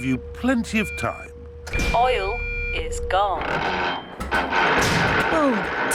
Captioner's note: creaking